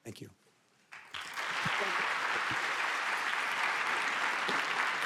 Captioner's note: audience applauding